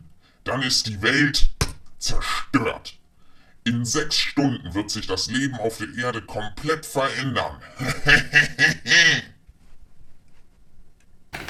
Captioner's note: evil laughing